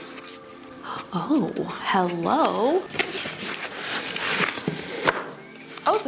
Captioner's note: wrapping crinkling; gasps; box crinkling